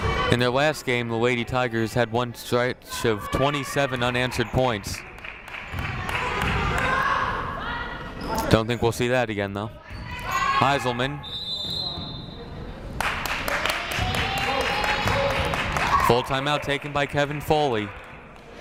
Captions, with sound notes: In their last game, the Lady Tigers had one stretch of 27 unanswered points. Don't think we'll see that again though. Heiselman. (whistle blows) (crowd clapping) Full timeout taken by Kevin Foley.